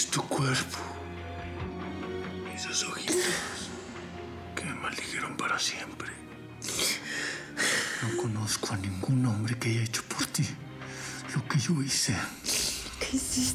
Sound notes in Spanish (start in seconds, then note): 7.3 sollozos